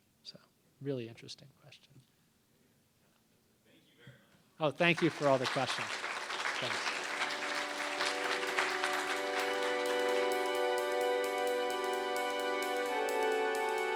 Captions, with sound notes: So, really interesting. Thank you for all the questions. Thanks. [applause] [electronic music]